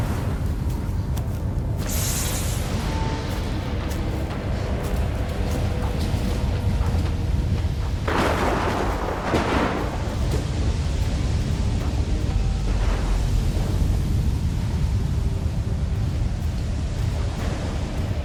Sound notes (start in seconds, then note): 0.0 thunder rumbling; 0.0 wind gushing; 7.9 thunder rumbling; 10.6 wind gushing